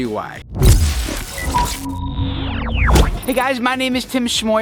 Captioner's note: electronic slicing